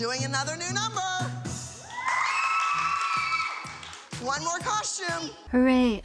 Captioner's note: cheering and clapping